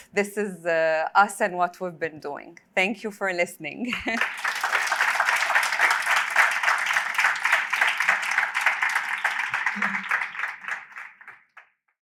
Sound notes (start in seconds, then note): 3.9 applause